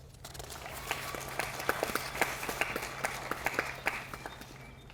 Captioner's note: audience applauding